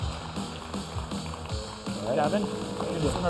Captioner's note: applause